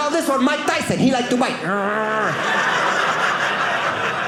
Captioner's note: audience laughing